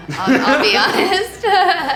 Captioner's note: laughing